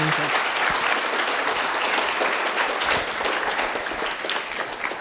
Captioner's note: audience applauding